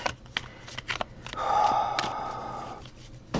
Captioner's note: sigh